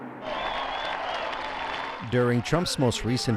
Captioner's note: audience cheers